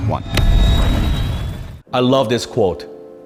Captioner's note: engine powering up